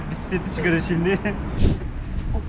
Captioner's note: laughs